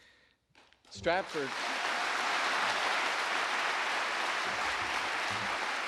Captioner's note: audience applauding